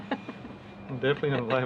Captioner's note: laughs